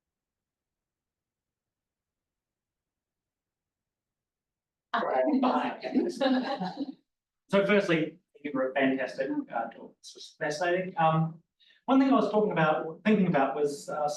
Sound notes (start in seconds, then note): 5.8 laughter